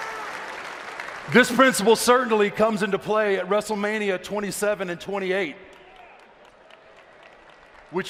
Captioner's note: applause